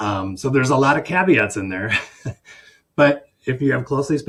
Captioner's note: chuckles